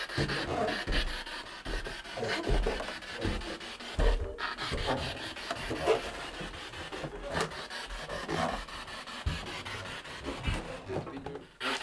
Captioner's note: sound of the Spirit Box in the background